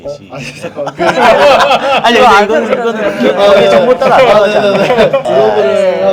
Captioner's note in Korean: 웃음